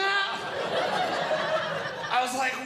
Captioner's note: audience Laughing